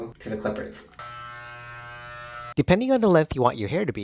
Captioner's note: buzzing noise